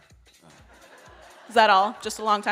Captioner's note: audience laughs